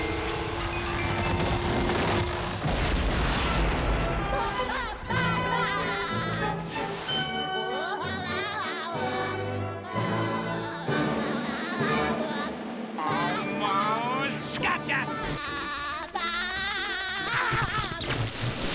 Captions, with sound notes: [whirring] [laughing] Whoa! [laughing] Almost gotcha! [laughing]